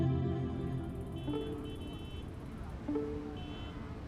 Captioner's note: hooter honks; wheels whirring; ambient music